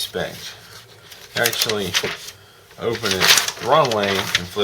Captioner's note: rustle of paper